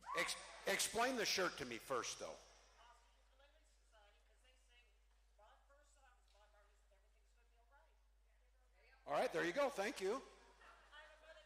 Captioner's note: cheering